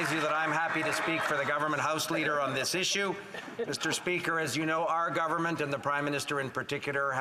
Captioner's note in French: voix de l'interprète